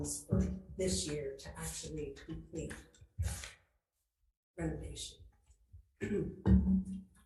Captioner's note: clears throat